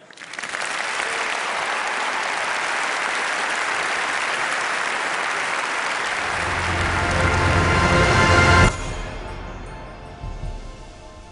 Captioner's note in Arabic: تصفيق